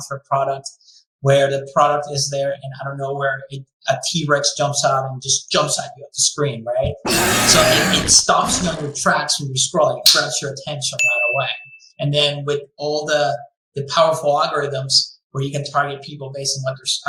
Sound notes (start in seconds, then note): 7.0 dinosaur Growl; 11.9 bell rings